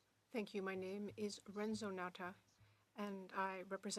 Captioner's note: speaking French